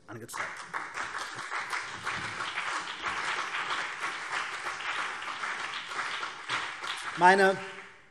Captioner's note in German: Beifall CDU und BÜNDNIS 90/DIE GRÜNEN